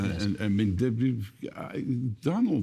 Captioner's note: stammering